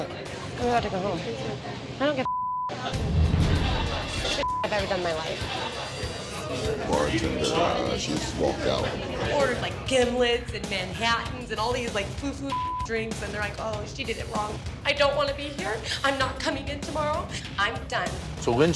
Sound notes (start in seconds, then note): 4.4 beep